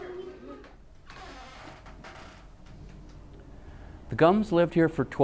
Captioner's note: floor boards creaking